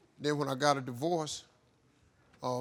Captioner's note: none